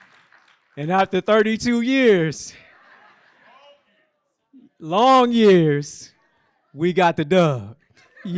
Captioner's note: applause; laughter